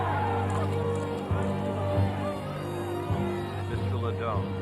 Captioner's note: crowd clamoring; cameras clicking